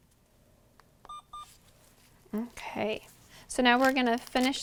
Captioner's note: Alaris pump beeps